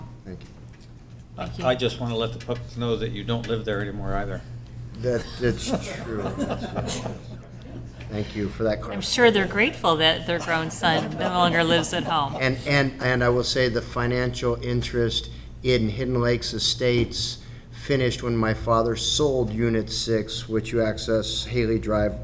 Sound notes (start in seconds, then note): 5.0 laughter